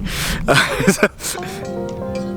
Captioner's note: laughs